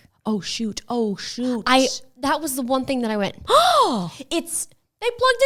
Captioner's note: gasps